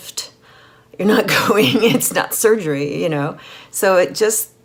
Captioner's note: laughing